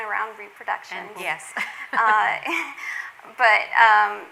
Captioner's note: laughs